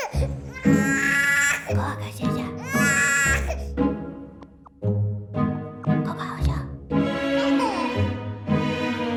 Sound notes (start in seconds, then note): 2.5 mother whispers